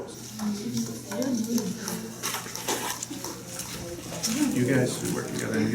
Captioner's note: classroom noise